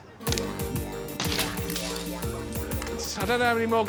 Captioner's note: upbeat music; iron thudding